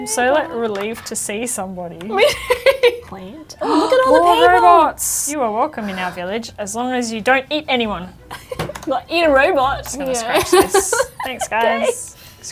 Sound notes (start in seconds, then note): 2.2 laughs; 4.6 gasps; 10.4 chuckles; 10.5 laughs